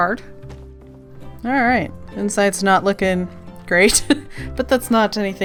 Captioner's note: laughs